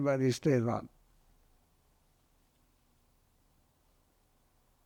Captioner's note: pauses 11 seconds